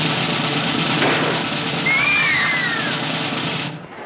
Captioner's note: screams; clamoring